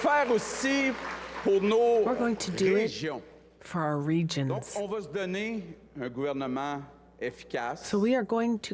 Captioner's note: cheers and applause